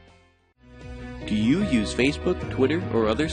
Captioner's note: uplifting electronic music; voiceover